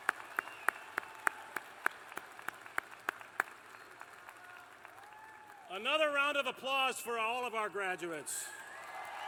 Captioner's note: applause